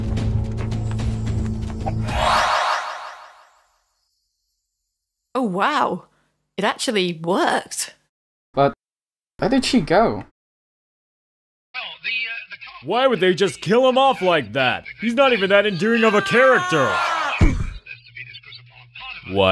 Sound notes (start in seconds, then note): 1.8 whooshy magic noise